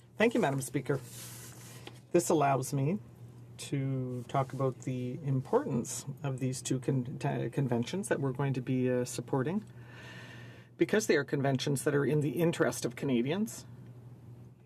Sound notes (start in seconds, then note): 3.2 speaking in French